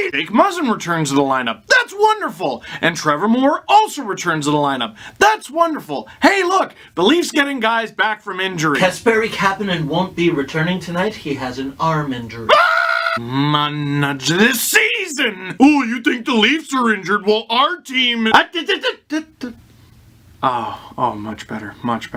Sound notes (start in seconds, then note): 10.4 announcer voice; 12.4 scream